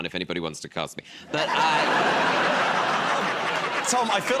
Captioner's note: laughter